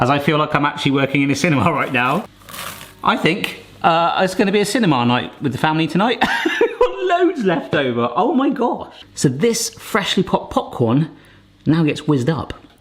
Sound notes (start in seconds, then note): 6.4 laughing